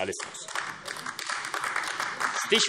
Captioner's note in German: Beifall AfD